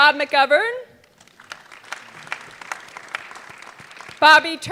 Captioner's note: audience clapping